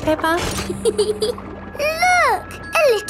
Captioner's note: peppa giggles